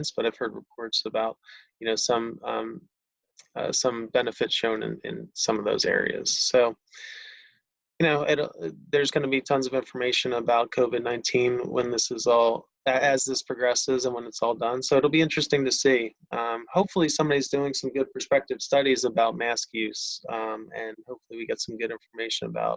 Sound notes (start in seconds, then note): none